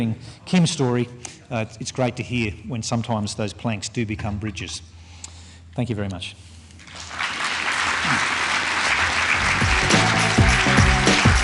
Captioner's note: clapping